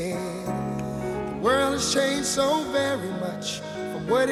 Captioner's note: voiceover